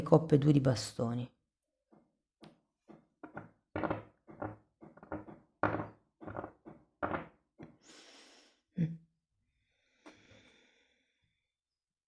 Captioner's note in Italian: schiarire la voce